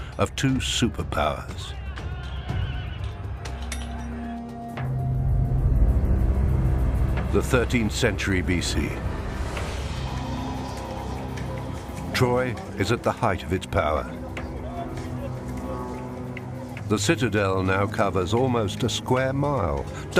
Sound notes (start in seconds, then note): 2.7 dramatic music; 2.7 horses neighing